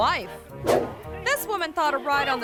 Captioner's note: image whooshes